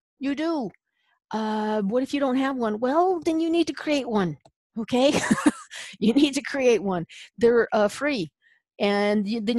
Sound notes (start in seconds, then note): 5.1 laughs